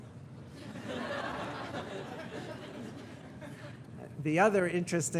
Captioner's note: audience laughing